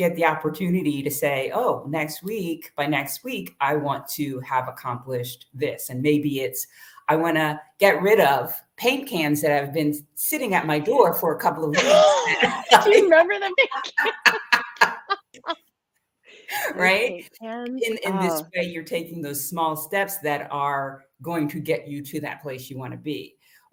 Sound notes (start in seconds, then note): 6.9 laughter